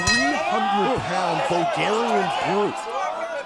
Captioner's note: bell ringing